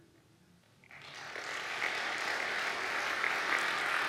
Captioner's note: audience applauding